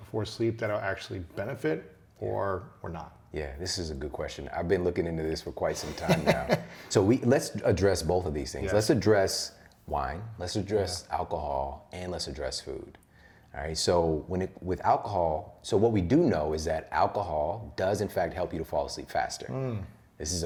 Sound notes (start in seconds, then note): 5.7 laughter